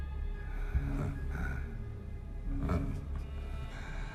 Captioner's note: William laughs